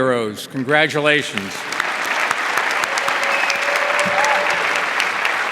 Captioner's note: audience applauding